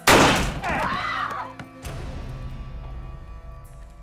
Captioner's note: screams